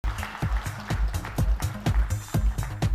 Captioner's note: applause